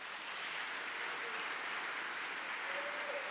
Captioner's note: applause